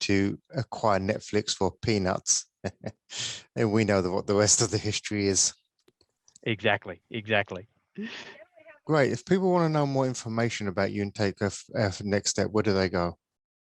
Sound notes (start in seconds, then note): 2.5 laughs